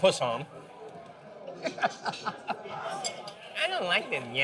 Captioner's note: shouting in Italian